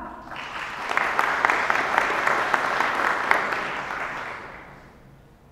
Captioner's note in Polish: oklaski